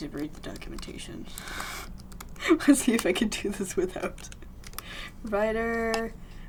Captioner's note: laughs